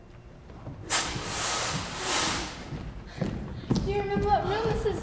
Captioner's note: footsteps entering